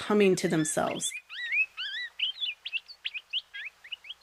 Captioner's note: Palila singing